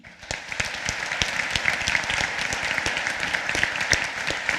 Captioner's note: applause